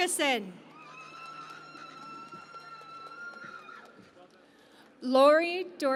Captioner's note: cheering and Applause